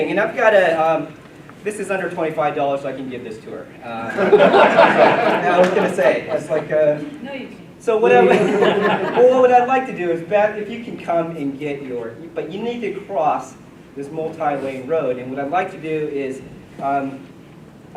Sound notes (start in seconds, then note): 4.0 laughter